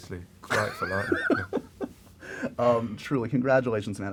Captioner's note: laughter